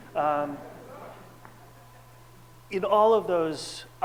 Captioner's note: audience laughs